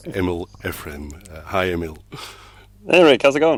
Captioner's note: laughs